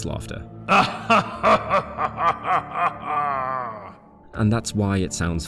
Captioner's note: laughs